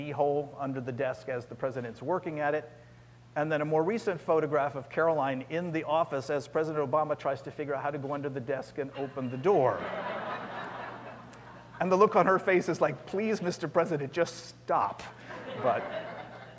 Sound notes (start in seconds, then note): 9.7 laughter; 15.2 laughter